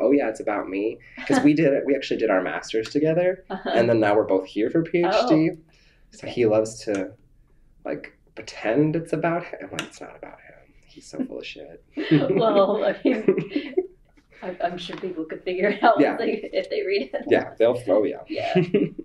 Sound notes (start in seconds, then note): 12.0 laughter